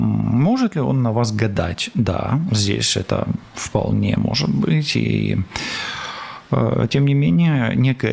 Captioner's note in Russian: вздыхает; тяжело вздыхает